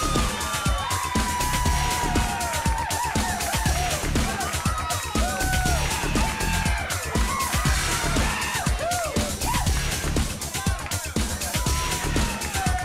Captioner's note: crowd cheering